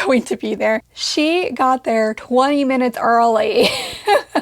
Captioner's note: laughs